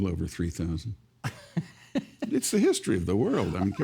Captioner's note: laughing